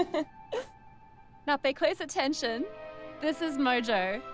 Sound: giggles

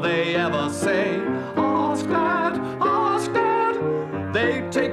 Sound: falsetto

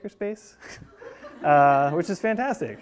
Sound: class laughing

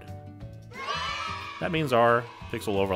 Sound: children cheering

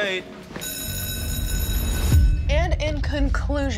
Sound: school bell rings

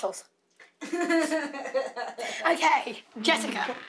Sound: laughs

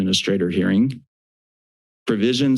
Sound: silence

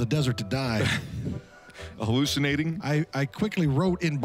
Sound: laughs

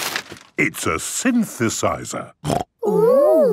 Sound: snorting

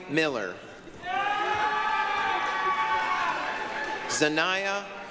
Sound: applause, cheering

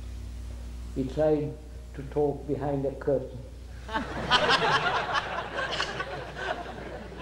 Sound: laughter

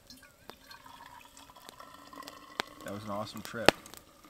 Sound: tea burbling

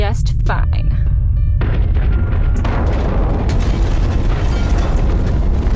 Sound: A loud crashing sound

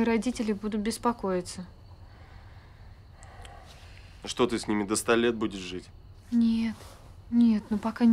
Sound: breathes heavily

